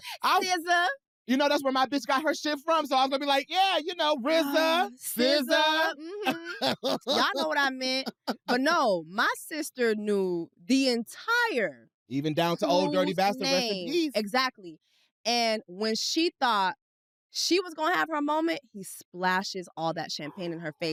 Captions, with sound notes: -SZA. -You know, that's where my bitch got her shit from, so I was gonna be like, "Yeah, you know, RZA. SZA." -(LAUGHS) -Y'all know what I meant. But no, my sister knew the entire crew's name. Even down to Ol' Dirty Bastard, rest in peace. Exactly. And when she thought she was going to have her moment, he splashes all that champagne in her face.